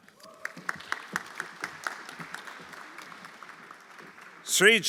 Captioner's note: everyone applauding